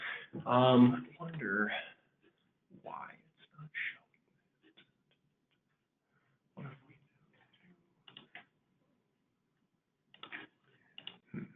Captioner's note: silence